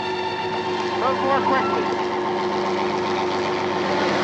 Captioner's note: helicopter whirring